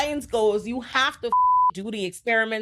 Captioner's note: beep